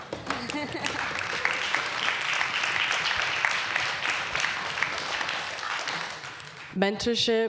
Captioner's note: applause